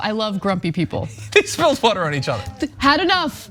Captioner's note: laugh